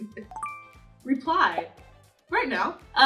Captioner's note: notification chiming